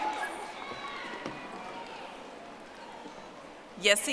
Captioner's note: audience applauding